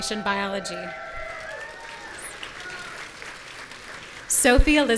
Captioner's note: audience cheering